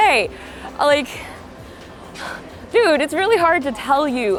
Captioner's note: sighs